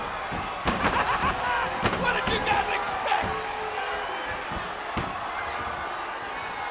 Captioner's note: laughs